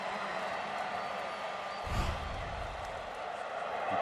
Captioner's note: pa announcement